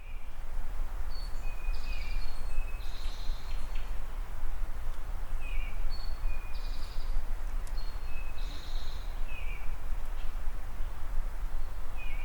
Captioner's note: birds chirping